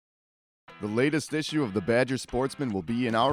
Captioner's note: voiceover